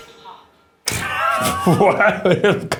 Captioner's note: laugh